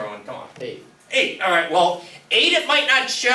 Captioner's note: voiceover